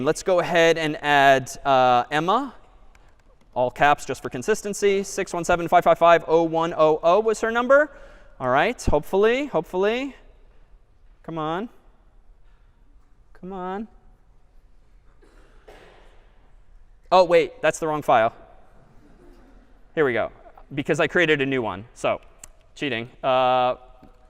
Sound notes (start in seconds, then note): 18.8 laughter